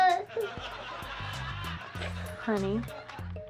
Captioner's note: audience laughing